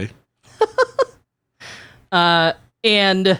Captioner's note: laughing